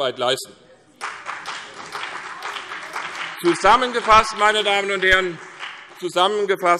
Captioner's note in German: Beifall CDU und BÜNDNIS 90/DIE GRÜNEN